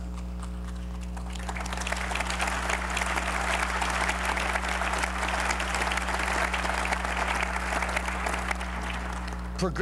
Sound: applause

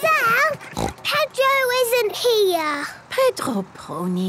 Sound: snort

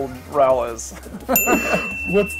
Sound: laughing; bell rings

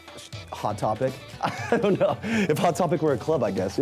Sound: laughing

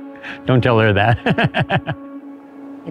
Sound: laughs

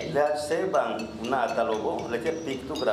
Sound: speaking yucatec

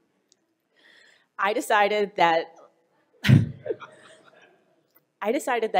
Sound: laughing

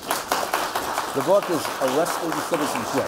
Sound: applause

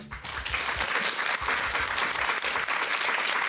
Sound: applause

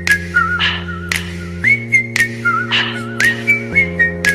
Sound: some more whistling and heavy panting

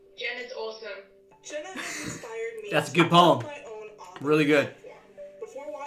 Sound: chuckles

